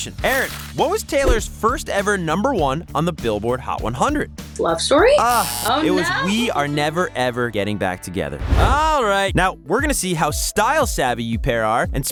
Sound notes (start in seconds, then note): 5.2 buzzer buzzing